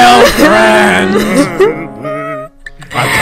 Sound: even more sobbing

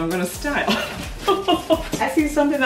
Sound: laughs

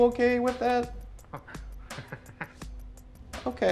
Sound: chuckling

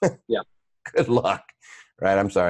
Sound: chuckles

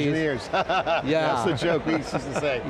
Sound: laughing

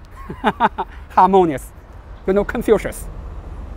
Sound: laughs

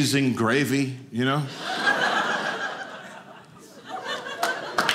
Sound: audience laughing; audience applauding

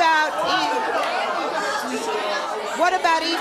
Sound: audience jeering

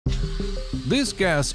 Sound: valve hissing

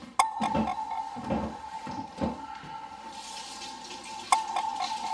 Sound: rustling sound; footsteps; water running

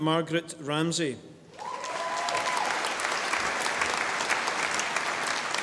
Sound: audience applauding

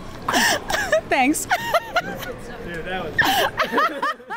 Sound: laughing

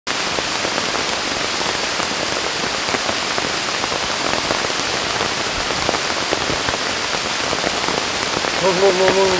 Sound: heavy rain hitting leaves

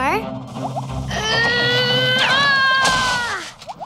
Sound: grunting

